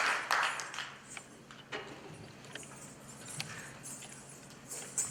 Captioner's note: coins jingling